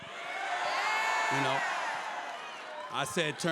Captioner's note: crowd cheers